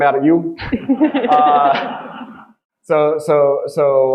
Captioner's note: audience laughing